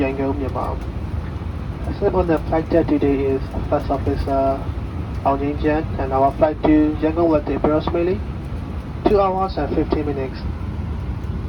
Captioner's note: pilot on PA, giving welcoming announcement